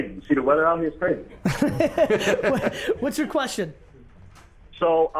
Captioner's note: laughs